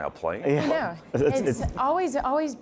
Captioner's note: chuckling